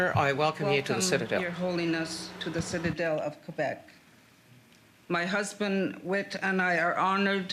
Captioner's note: speaking French